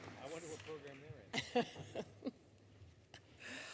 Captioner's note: laughter